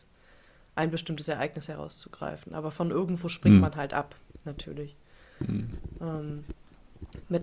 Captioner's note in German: räuspern